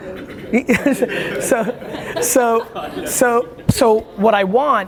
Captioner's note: laughter